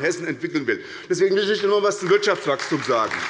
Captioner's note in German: Beifall bei der SPD